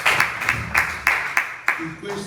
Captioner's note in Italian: Applauso